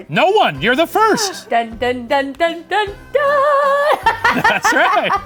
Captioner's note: laughing